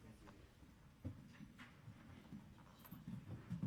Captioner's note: speaking softly